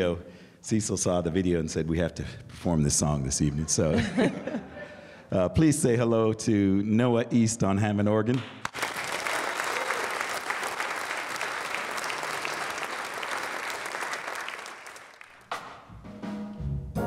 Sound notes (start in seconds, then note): 3.6 laughter; 8.3 applause